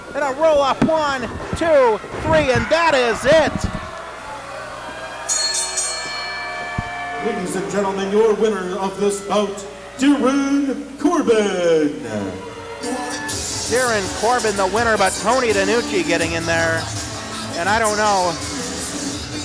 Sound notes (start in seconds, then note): 5.2 bell ringing